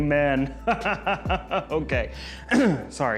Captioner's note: man evil laughing